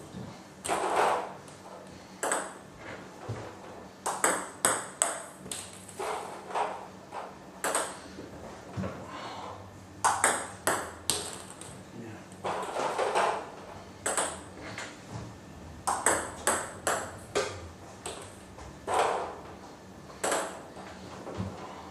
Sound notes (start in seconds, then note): 0.3 balls ping pong hitting continues; 10.0 balls ping pong hitting continues; 18.3 balls ping pong hitting continues